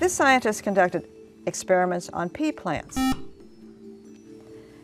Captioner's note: buzzer